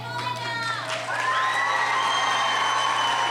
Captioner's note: cheering